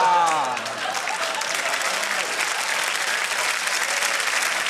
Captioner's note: applause